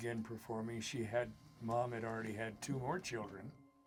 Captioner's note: static